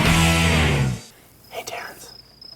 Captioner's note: crickets chirping; whispering